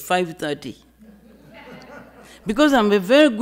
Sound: audience laughing

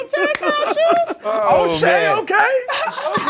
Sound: laughter

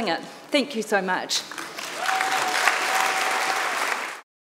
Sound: audience clapping and cheering

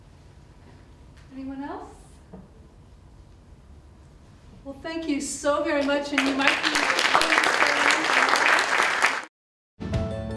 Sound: applause

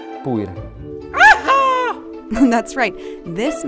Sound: whoops

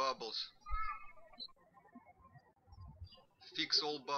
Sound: birds chirping

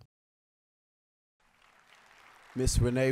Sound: applause

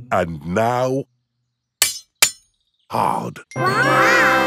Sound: shovel clanks

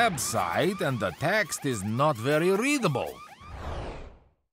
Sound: alarm wailing

